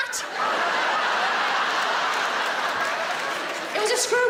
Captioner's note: audience laughs